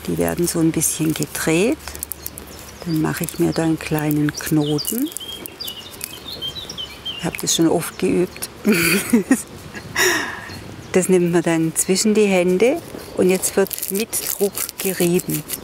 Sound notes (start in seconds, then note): 8.6 she laughs